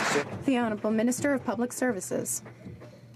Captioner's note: some Applause